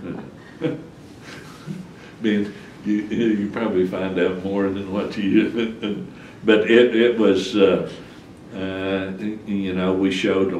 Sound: laughs

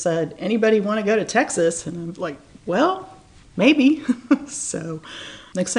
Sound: laughs

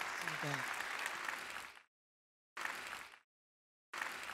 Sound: audience claps

